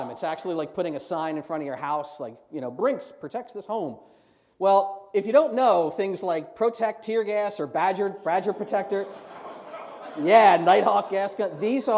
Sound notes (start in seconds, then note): 8.4 laughs